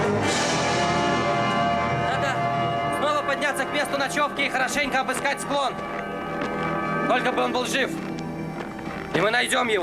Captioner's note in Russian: колокольчик